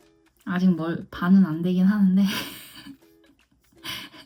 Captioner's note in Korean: ㅋㅋ